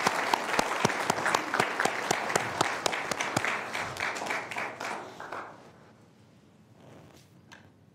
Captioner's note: applause